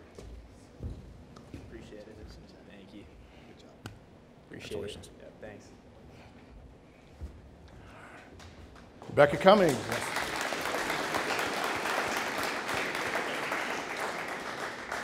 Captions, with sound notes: - Appreciated, thank you. - Good job. - Appreciated, thanks. - Rebecca Cummings. (audience applauding)